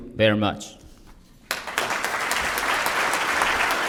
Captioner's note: applause